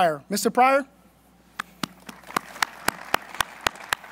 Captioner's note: applause